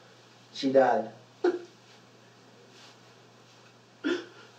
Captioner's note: crying